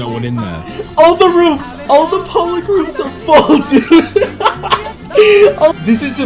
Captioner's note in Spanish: Mas risas